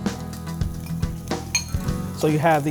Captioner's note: sizzling